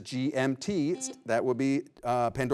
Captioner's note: beep